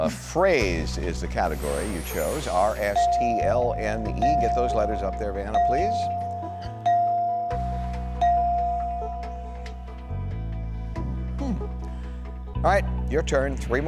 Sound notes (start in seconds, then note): 6.3 dinging